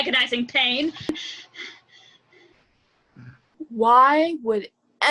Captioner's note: panting